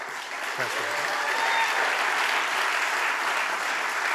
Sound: audience applauding

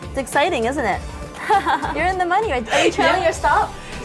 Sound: laughs

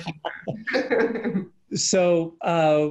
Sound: laughing

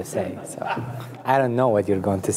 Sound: audience laughs

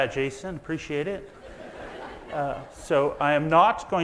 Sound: audience laughs

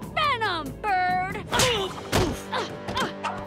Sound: groaning

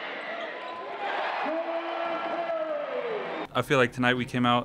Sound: crowd cheering

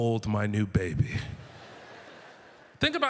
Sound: audience laughter

